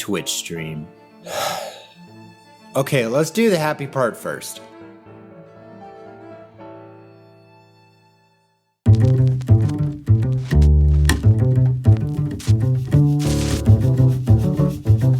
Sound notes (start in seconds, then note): 1.2 sighs